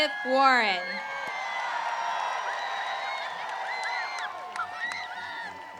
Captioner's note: applause